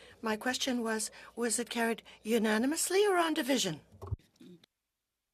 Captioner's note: speaking French